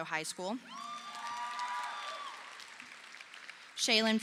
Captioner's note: audience applauding